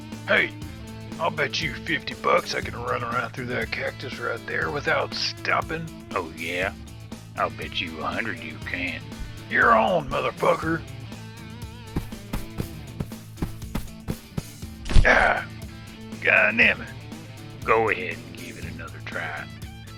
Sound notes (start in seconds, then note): 11.9 feet running; 14.8 thud